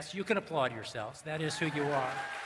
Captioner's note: applause